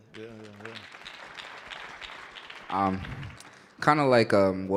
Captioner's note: audience applauding